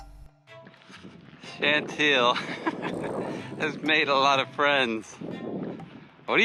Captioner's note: laughing